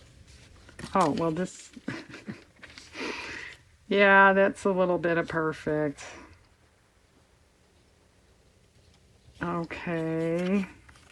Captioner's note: laughs